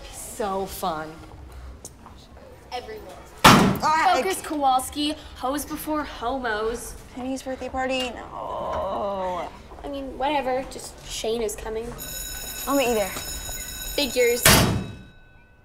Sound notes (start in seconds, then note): 3.4 locker slams; 11.9 bell ringing